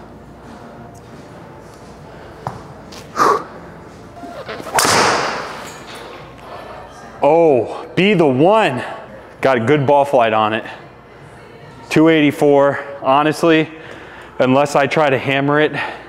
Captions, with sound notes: (exhales sharply) (club whumps) Oh, be the one, got a good ball flight on it. 284, honestly, unless I try to hammer it.